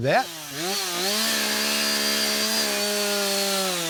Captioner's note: chainsaw buzzing